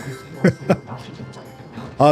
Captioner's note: laughter